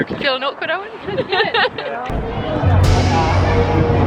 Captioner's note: laughing